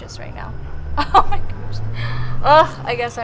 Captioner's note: laughs